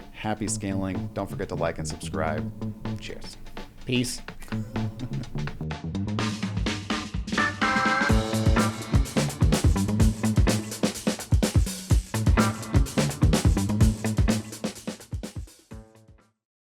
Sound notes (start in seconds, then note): 4.4 laughs; 6.7 funk music